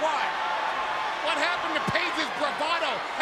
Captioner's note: crowd cheering